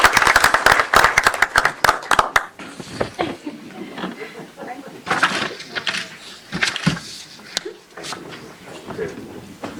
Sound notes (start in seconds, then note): 3.1 applause